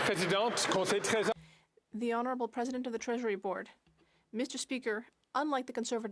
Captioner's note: some Applause